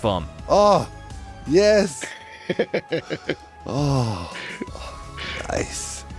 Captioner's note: laughs